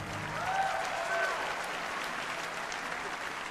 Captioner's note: applause